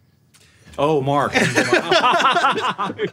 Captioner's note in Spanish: risas